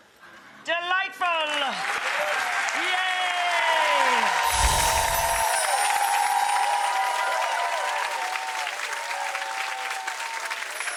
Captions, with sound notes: Delightful! (applause) Yay! (magical whooshing) (applause fades)